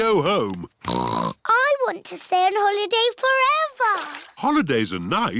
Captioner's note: snorts